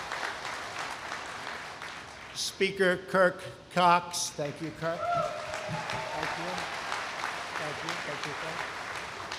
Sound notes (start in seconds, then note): 0.0 applause; 5.0 applause